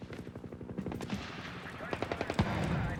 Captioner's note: gunfire